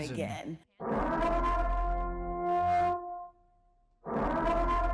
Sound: alarm blaring

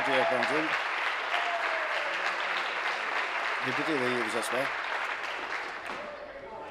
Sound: applause

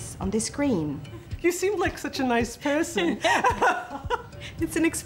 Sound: laughs

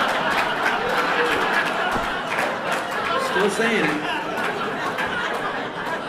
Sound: laughter

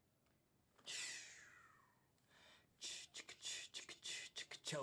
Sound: Dave beatboxes

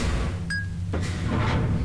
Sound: ding

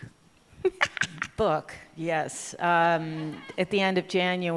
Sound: laughter

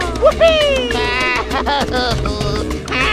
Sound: crying

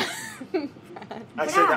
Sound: laughing

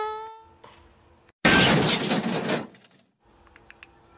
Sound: crash!

